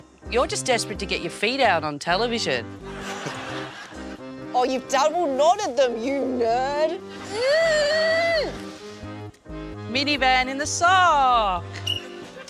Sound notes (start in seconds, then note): 2.8 laughs; 7.2 groans; 11.8 whistle blows